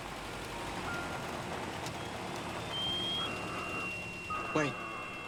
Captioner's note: alarm